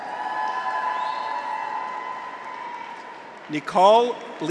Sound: audience applauds; graduates cheer

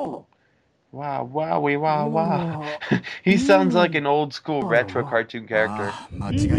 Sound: laughs

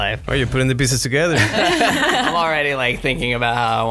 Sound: laughs

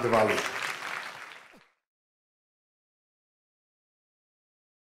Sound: audience applauds

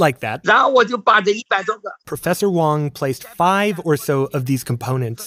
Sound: speaking Mandarin

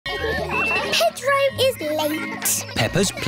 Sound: kids giggling

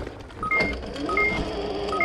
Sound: bike clatters; beeping; bike whirring

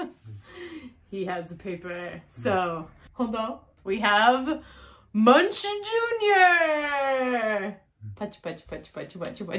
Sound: clap clap clap

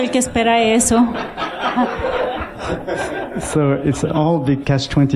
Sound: laughter

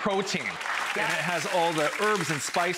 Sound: applause

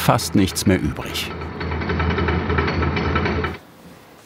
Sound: thud banging

